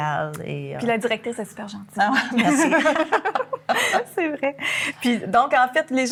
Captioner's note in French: rires